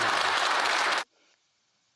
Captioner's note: applause